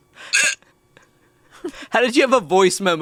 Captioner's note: gags